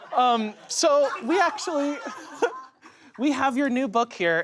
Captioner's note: laughs